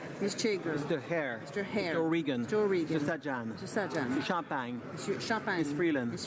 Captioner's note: speaking french